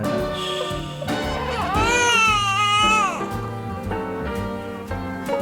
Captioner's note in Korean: 피곤함의 칭얼거림